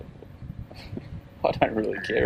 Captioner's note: laughing